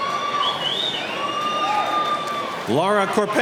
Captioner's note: cheering